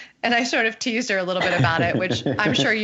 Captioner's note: laughter